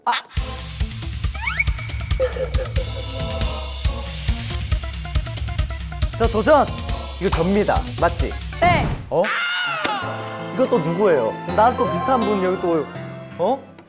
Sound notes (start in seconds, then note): 6.8 confident